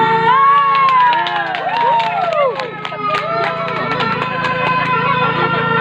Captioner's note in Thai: ปรบมือ